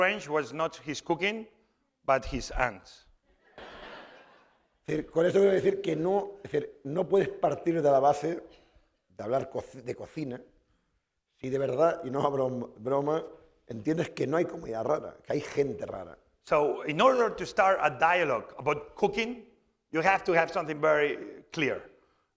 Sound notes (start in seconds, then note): 3.4 laughter; 5.5 speaking spanish